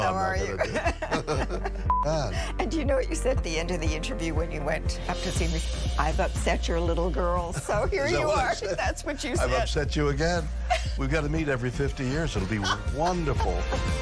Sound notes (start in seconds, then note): 4.5 chuckling